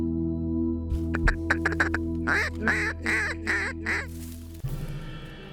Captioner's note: duck calls